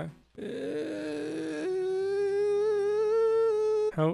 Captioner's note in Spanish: Sonido de frustración frustrada